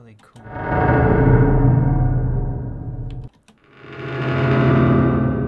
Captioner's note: door creak sounds play